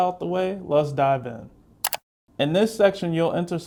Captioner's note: keyboard clicks